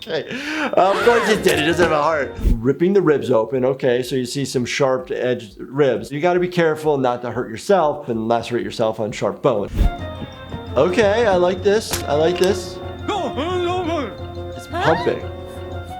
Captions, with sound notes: Okay, of course he's dead he doesn't have a heart. Ripping the ribs open, okay. So you see some sharp edged ribs. You gotta be careful not to hurt yourself and lacerate yourself on sharp bone. Okay, I like this, I like this. (gibberish language) He's pumping.